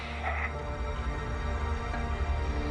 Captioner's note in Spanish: Resoplido